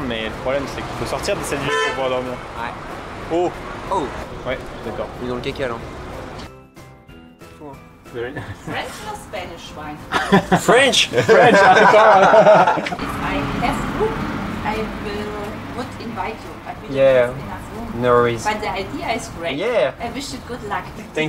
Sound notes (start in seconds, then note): 10.1 laughes